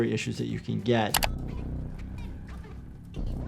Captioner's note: mouse clicks; ominous tense music